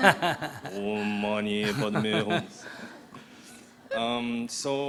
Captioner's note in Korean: 스님 , 청중 웃음; 스님 웃음